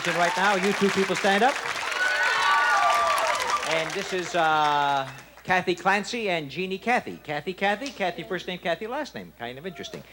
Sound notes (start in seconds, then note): 1.8 audience applause and screams